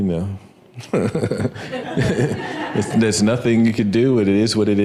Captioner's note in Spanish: risas